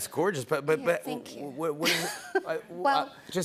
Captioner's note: laughs